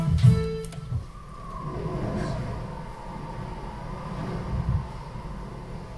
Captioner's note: wind howling